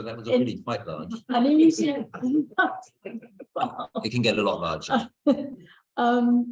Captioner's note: laughter